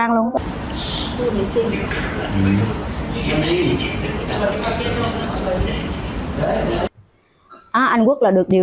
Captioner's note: people chatting